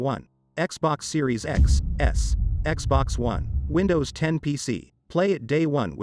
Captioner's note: dramatic sound